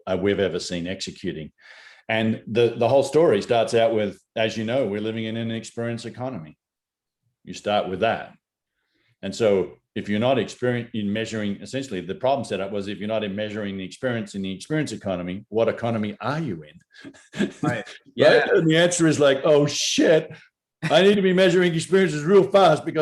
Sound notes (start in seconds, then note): 17.0 laughs